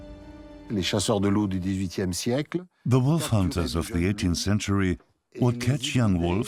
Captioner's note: French dubbed into English